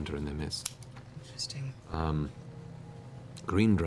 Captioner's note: whispering